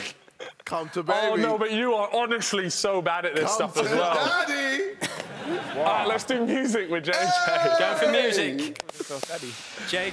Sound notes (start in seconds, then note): 5.0 laughing; 7.4 shouting